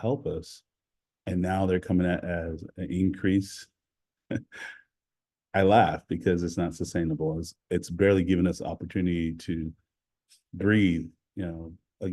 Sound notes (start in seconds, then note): 4.3 laughing